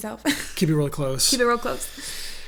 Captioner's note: laughs